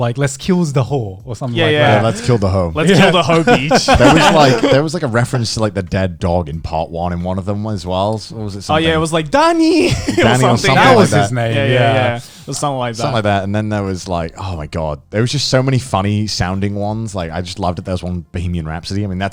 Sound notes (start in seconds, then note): 2.8 laughing